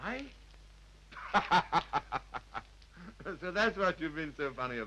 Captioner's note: laughs